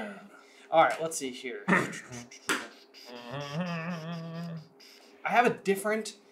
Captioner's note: humming